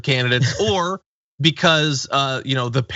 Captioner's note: laugh